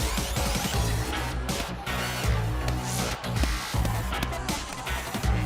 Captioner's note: punches landing